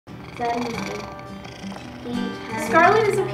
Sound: cat purr; upbeat guitar music

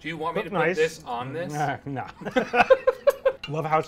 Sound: laugh

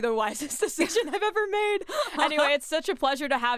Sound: laughs

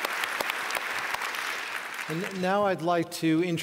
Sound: applause

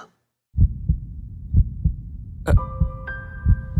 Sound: badump, badump

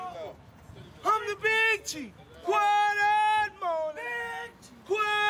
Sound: speaking in foreign language

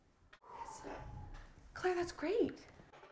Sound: sighing

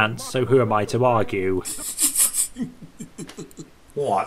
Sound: snickers

